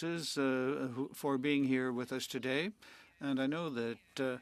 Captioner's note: speaking French